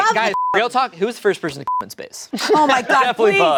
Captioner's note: beep